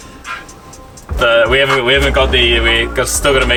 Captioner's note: glitch